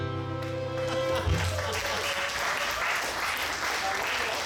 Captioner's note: audience clapping